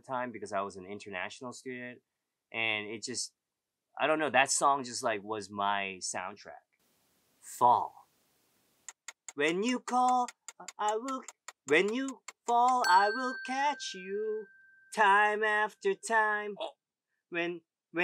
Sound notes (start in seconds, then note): 8.9 timer ticking